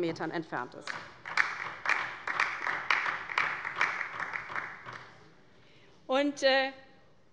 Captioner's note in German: Beifall bei der LINKEN